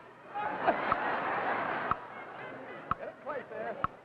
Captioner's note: crowd laughing